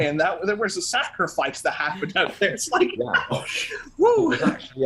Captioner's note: laughing